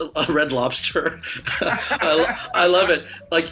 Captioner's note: laughs